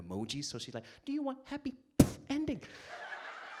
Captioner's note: air bursts; audience laughs